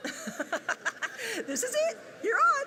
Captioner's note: laughing